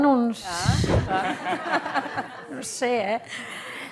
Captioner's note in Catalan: riures